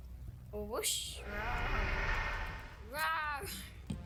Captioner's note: soft monster roar